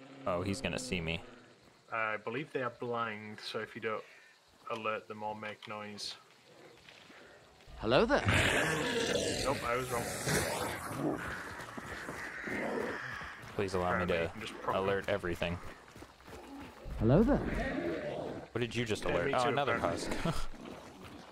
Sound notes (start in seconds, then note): 7.7 husk roars; 10.8 crows cawing; 16.9 husk roars